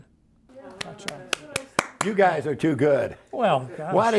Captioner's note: applauds